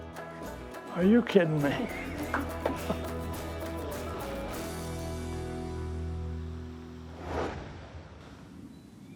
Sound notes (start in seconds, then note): 2.6 laughs